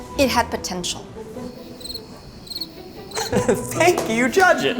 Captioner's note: crickets; clapping